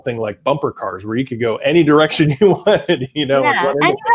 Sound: chuckles

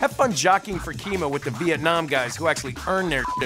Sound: beeps

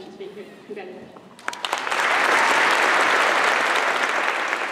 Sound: applause

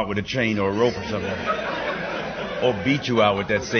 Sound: laughter

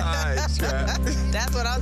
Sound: laughing

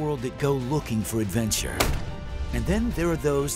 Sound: gunshot

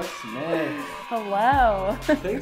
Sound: cheering sound

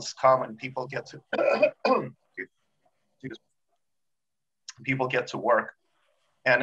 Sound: coughs

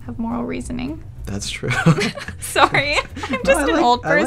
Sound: laughing; laughs

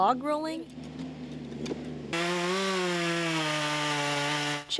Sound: sound: chainsaws

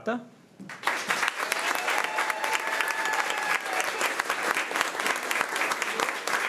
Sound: crowd cheering and clapping

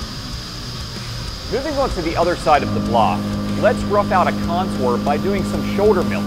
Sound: machining noises

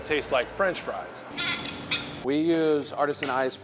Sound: bottle squeaking

